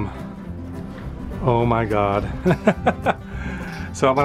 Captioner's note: laughter